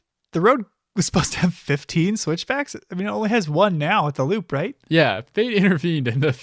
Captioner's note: chuckling